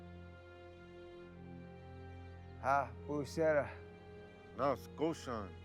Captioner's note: speaking in foreign language